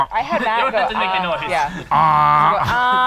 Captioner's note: laughing